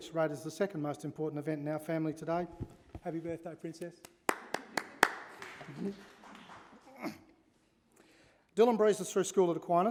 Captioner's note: applause